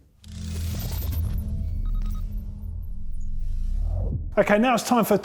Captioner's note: electronic beeping